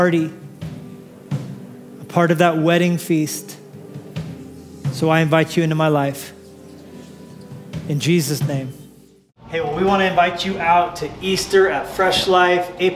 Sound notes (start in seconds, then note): none